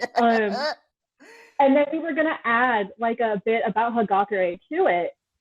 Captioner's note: cackle